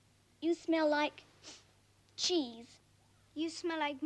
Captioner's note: sniffing